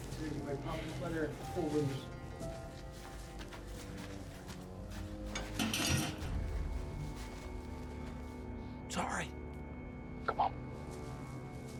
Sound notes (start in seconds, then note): 2.7 footsteps; 5.3 clanking sound; 8.8 solomon whispers